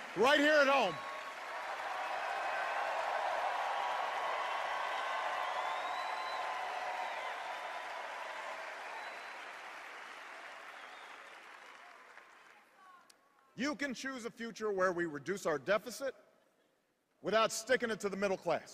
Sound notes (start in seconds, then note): 7.0 cheers and applause